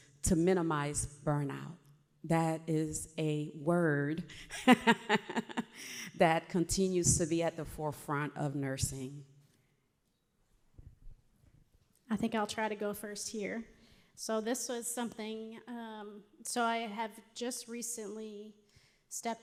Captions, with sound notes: to minimize burnout? That is a word (laughs) that continues to be at the forefront of nursing. I think I'll try to go first here. So this was something, so I have just recently stepped away